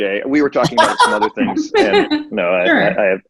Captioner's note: laughing